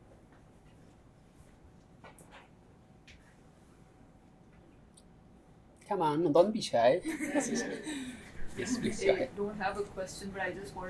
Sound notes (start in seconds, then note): 7.0 laughter